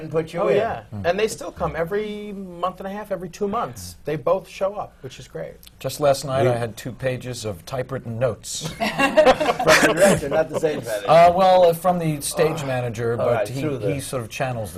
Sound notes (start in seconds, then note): 8.6 laughter